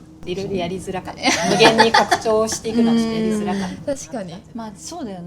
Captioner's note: laughs